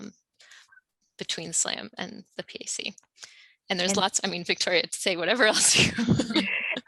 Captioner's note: laughs